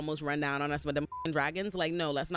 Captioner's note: beep